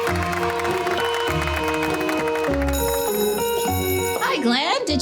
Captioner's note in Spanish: música alegre; niños vitoreando; suena la campana